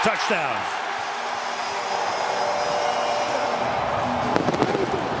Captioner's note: cheering